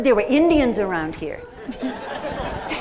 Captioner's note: laughter